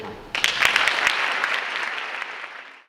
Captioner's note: audience clapping